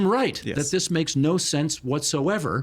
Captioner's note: chuckling